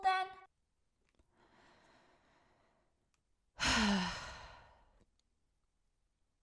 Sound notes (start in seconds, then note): 0.5 exasperated breath; 3.6 sigh